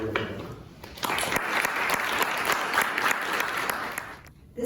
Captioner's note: applause